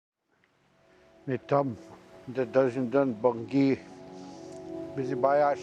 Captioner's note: speaking Ojibwe